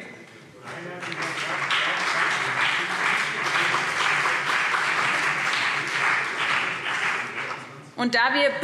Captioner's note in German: Beifall BÜNDNIS 90/DIE GRÜNEN und CDU